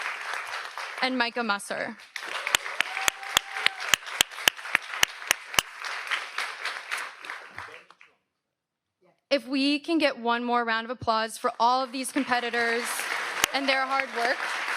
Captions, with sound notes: And Michah Musser. (audience applauds) If we can get one more round of applause for all of these competitors and their hard work.